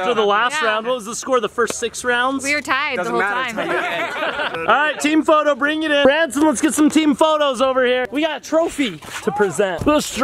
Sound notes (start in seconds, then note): 3.0 all laughing